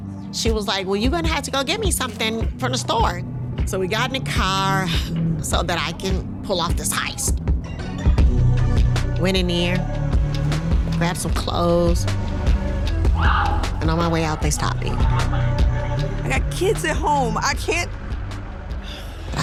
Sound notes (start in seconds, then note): 13.1 police siren